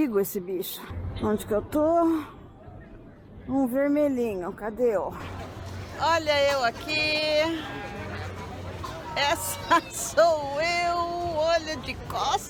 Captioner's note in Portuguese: risos